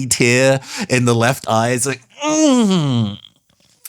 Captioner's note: pained Noises